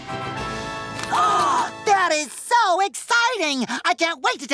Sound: gasps

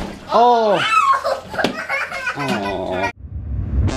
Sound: child cries

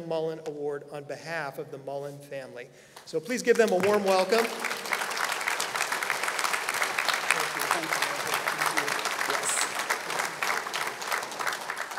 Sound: applause

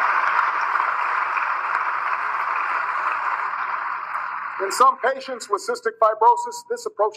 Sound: applause

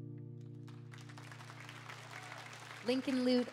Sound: audience clapping

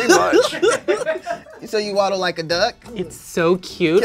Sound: laughter

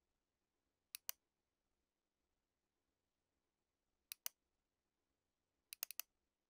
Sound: computer mouse clicking

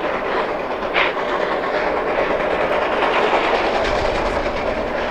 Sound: fast chugging from rotary

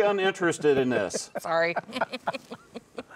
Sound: laughing

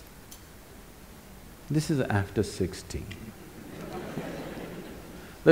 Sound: laughter

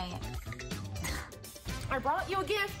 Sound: scoffs

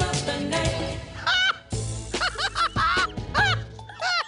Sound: RuPaul cackles loudly

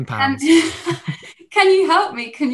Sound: laughs

